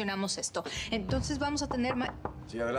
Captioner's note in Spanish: Toques en la puerta